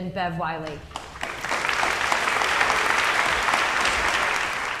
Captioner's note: audience applauding